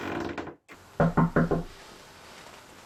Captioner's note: knock at the door